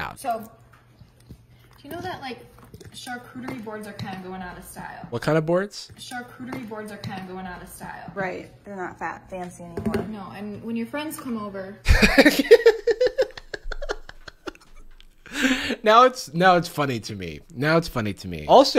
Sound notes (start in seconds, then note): 11.8 laughs